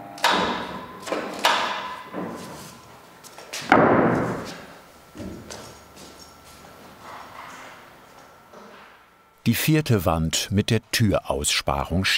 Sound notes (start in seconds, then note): 0.5 clacking; 3.6 banging